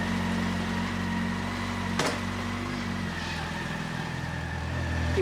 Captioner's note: motorbike engine starting